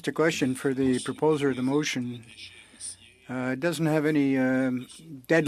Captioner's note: speaking French